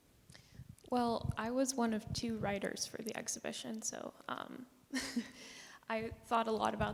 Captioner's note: chuckles